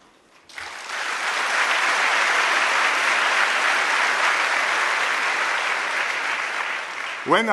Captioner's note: applause